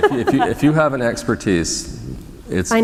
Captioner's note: laughter